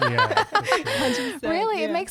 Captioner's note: laughing together